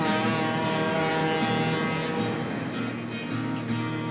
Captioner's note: horn Blowing